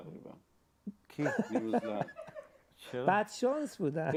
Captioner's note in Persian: خنده